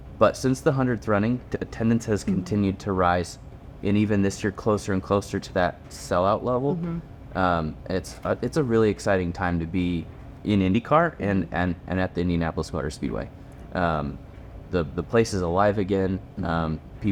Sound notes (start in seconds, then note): none